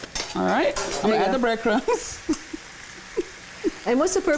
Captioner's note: laughs